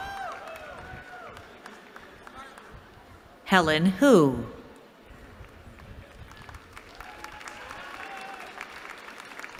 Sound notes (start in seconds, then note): 5.7 applause